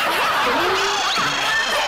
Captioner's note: laugh